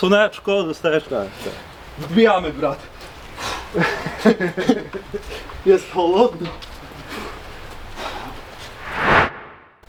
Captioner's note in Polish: śmiech